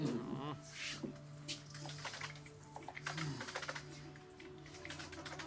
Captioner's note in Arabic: النقر على مفاتيح لوحة المفاتيح